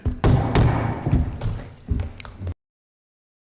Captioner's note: gavel thuds